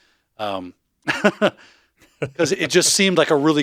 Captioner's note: both laughing